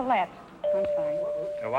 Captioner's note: chime rings